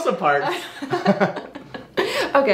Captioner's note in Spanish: Ambos se ríen